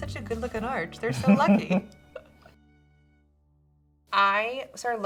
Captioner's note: laughs